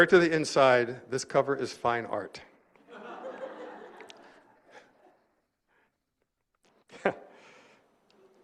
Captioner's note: laughter